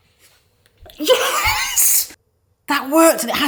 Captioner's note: laughs